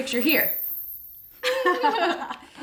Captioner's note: sparkly chiming; laughs